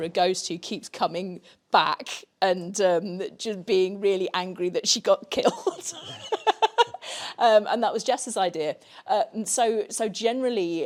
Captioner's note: laughs